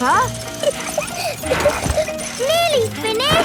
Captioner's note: peppa laughing